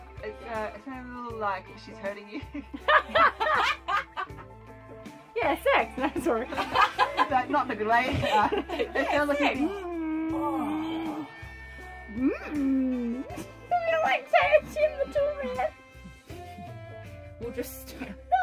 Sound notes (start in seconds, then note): 2.4 laugh; 6.0 laughs; 10.4 grunting; 13.8 laughs